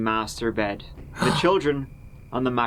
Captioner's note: gasps